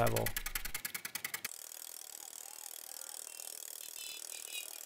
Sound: rapid clicking

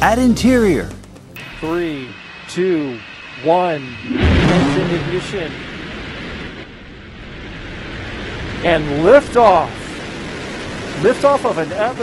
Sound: rocket noise

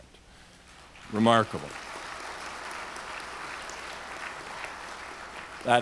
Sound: audience applauds

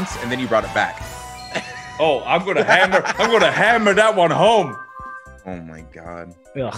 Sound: laugh

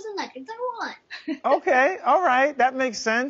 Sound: mom laughs

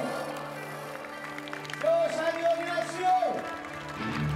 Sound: applause

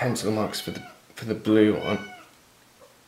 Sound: cat meows

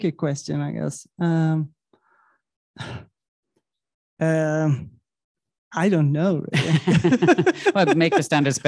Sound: chuckling

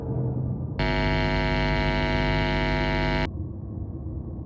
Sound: hum

